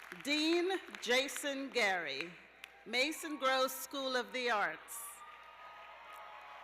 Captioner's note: cheers and applause